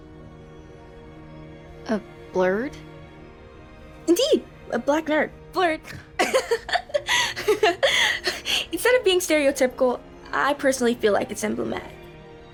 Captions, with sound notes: (slow orchestral music) - A blerd? - Indeed, a Black nerd, blerd. (laughs) Instead of being stereotypical, I personally feel like it's emblematic.